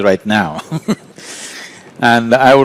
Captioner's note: laughs